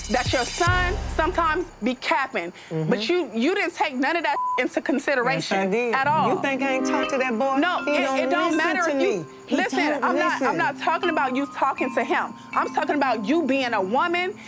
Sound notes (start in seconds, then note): 4.3 beep